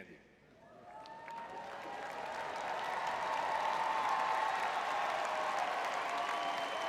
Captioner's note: audience cheering